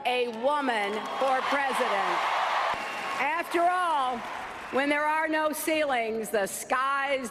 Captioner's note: cheers